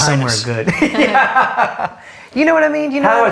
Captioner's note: laughs